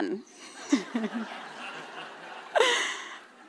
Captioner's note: laughter